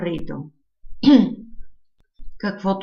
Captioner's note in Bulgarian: прочиства си гърлото